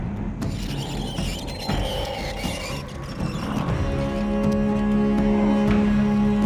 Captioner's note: nails screeching; pensive music; nails tapping; singing in foreign language